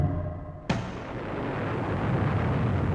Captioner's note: explosion